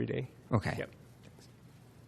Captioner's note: voiceover